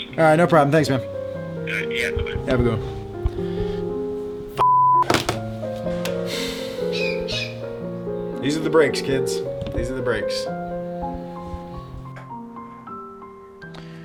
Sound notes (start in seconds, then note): 4.6 beep; 6.0 exhales